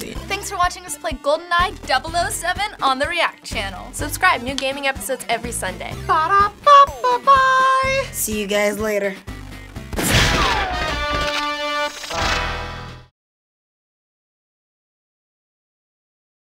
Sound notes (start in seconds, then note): 6.1 imitating theme; 9.4 theme music; 9.9 gunshot; 12.8 silence